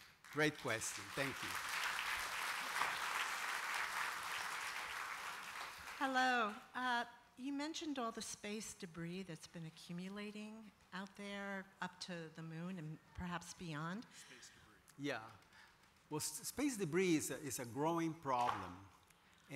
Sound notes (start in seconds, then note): 1.8 applause